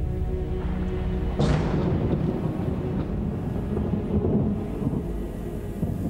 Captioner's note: thunder booming